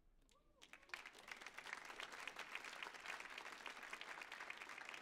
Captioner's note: audience applauds